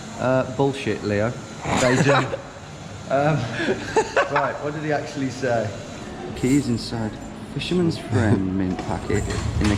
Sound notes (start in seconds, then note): 1.7 laughs